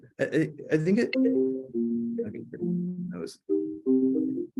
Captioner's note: phone ringing